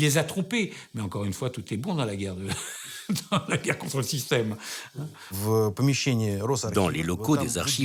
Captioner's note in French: rires